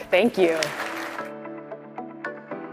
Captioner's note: audience applauding; upbeat music